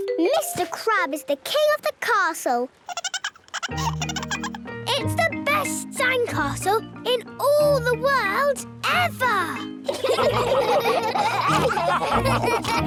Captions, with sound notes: - Mr. Crab is the king of the castle! - (giggling) - It's the best sandcastle in all the world... ever! - (all laughing)